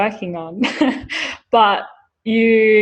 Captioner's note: laughs